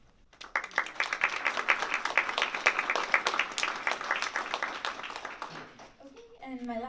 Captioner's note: applause